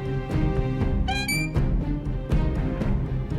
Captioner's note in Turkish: Kapı açılma sesi; Müzik - Gerilim